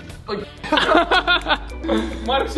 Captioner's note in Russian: смеются